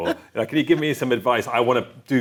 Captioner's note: chuckles